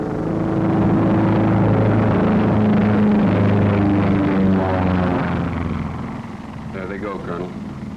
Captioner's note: fighter planes are taking off